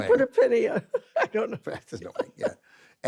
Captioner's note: laughs